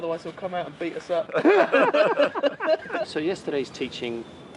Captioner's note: laughter